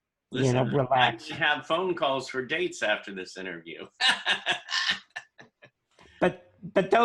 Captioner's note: laughter